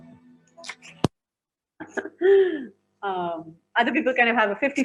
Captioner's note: both laughing